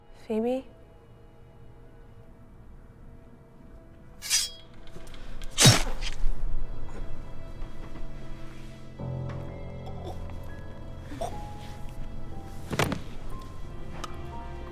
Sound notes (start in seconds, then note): 4.2 sword unsheathing; 7.8 ominous music; 11.1 Daphne choking